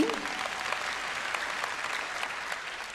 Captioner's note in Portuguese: audiência aplaude